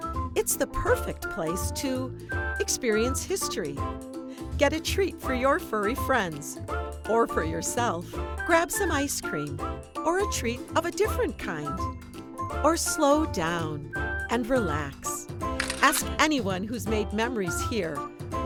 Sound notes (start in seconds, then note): 15.5 camera clicks